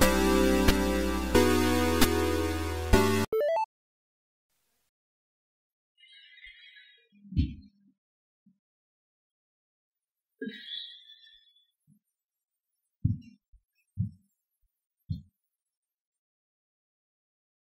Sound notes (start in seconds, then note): 3.3 notification sound